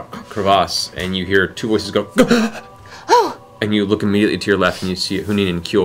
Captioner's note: surprised gasp